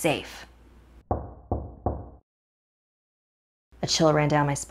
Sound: knocking on door

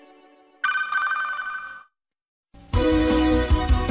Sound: communication signals dialing; retro music plays

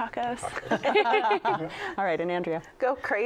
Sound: laughs

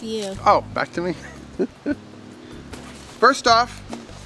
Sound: laughs

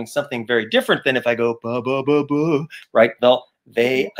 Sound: mimics saxophone

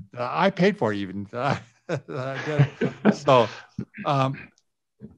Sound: laughing

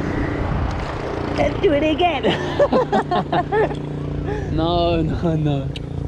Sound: both laugh

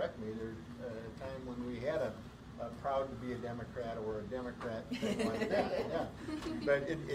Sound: laughter

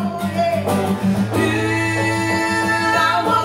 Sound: building vocalizations

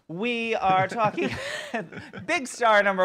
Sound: laughing

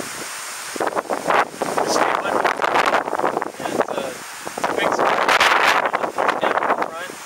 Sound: wind noise

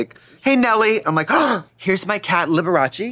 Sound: gasping

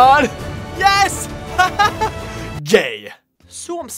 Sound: laughing

